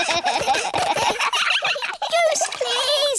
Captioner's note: all giggling